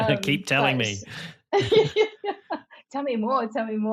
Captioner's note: both laughing